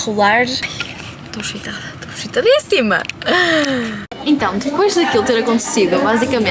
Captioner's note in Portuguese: suspirando